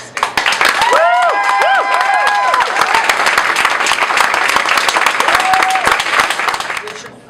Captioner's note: applause, cheers